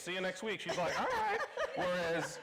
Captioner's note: laughing